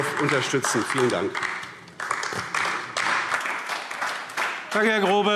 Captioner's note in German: Beifall AfD